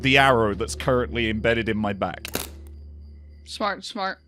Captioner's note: arrow snaps